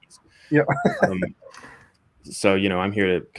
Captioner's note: both laughing